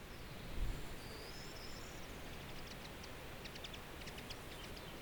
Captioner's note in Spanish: viento y pajarillos